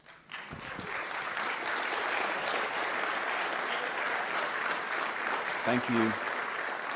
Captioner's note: applause